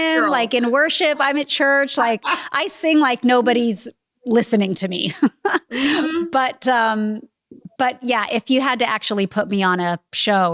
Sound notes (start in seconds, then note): 5.3 laughter